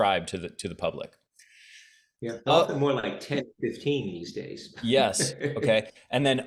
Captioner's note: laughs